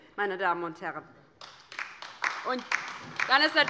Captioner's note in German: Beifall bei der LINKEN - Zuruf von der CDU